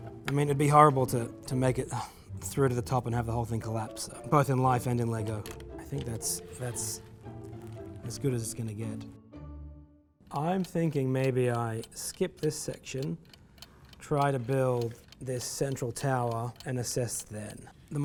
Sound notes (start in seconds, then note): 10.3 alarm clock ticking